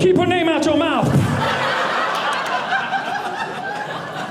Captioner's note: audience laughing